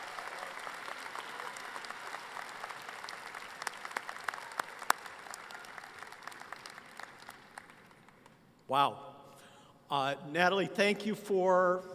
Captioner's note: applause